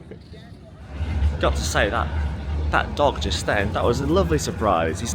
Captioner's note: laughs